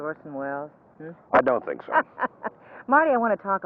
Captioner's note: laughing